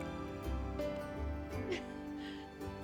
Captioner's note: laughs